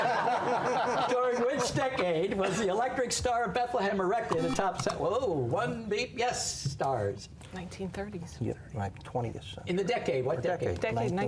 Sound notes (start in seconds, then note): 4.3 buzzer